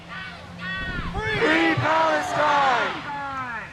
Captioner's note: crowd